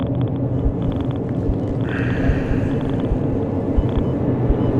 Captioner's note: machine beeps faster